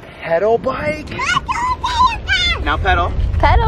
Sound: screaming

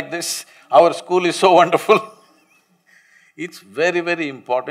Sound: laughs

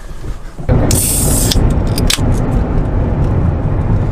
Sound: cap opens sound

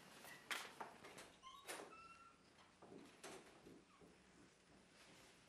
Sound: door closes

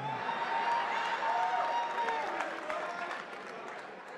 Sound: attendees applauding

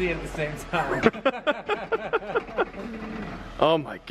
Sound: laughter

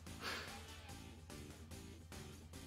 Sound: chuckles

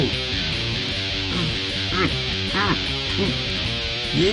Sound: thrusting sounds

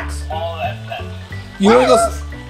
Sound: toy talking

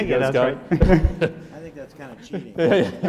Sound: laughing

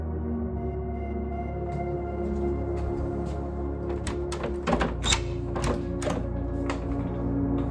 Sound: footsteps, door unlocks and squeaks open

